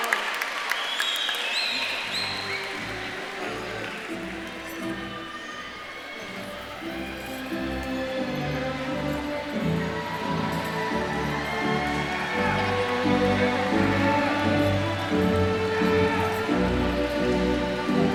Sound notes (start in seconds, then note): 3.1 crowd chattering; 3.1 stately celebratory music